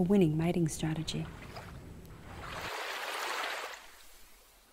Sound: splashing water

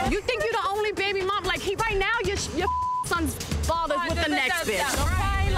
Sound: beep

